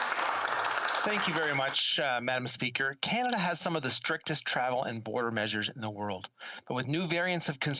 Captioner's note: applause